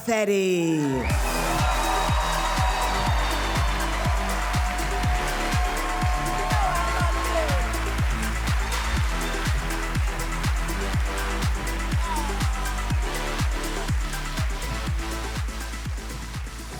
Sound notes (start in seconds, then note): 1.7 audience cheering; 1.7 cheerful music; 12.2 cheerful music continues